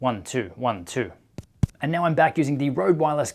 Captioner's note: tapping